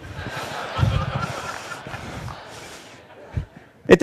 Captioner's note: Laughter; 笑聲